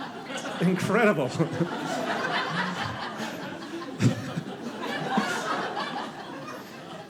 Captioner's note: audience laughing